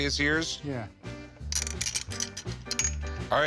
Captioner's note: ball clinks